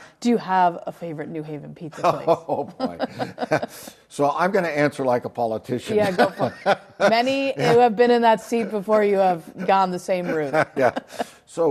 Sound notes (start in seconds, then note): 2.0 both laugh; 6.0 laughs